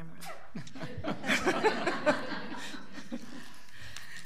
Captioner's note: all laughing